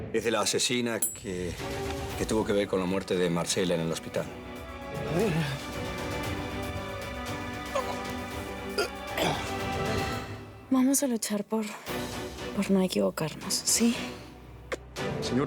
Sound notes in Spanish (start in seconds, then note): 7.6 Expresiones de asco